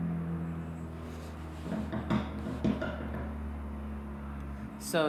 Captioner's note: car sounds in background